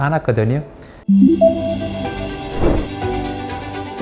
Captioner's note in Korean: 물방울 효과음